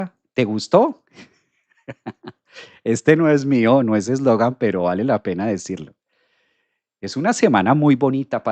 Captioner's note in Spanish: risas